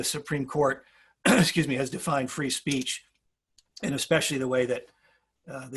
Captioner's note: cough